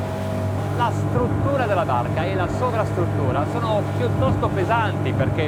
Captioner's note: speaking foreign language